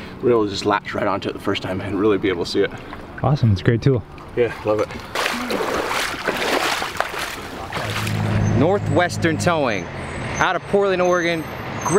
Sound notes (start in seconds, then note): 3.2 male Voice; 5.8 water splashes